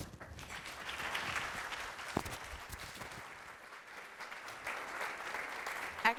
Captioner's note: applause